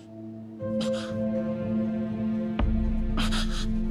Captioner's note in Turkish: Mehmet Ali inliyor